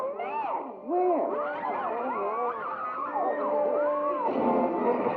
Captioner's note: ladies screaming